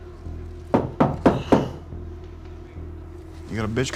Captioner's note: foreboding music; knocking